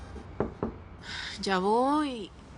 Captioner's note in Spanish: Toques en la puerta